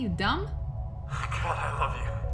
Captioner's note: laughing